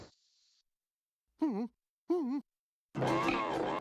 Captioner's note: whimpers